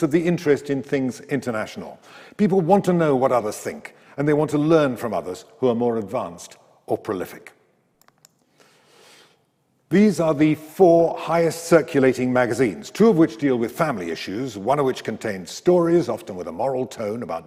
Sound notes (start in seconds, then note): 8.0 mouse clicks